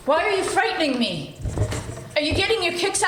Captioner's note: pencil scratching